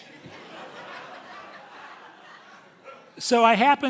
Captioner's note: audience laughing heartily